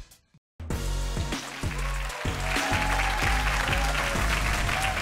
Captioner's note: energetic music; audience applauding